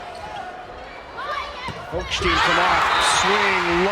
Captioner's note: players yelling; crowd cheering